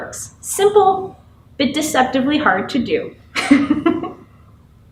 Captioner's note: laughs